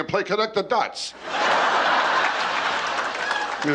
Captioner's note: laughter